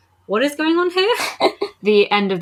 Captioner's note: laughs